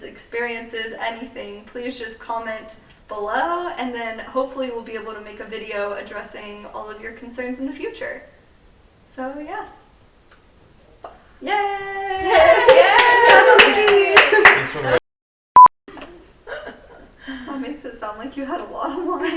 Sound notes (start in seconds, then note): 12.2 all applauding